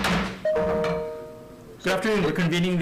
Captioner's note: gavel bangs